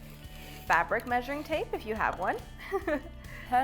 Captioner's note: giggle